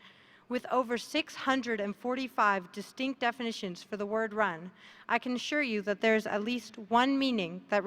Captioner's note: none